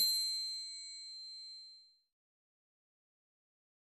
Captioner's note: bright tone